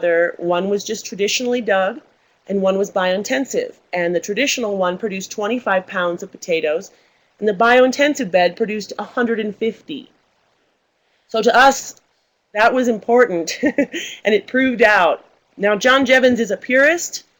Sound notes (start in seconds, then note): 13.5 laughs